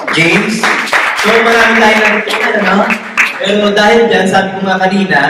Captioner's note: applause